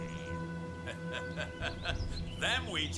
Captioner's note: laughing